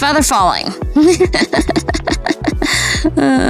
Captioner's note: laughs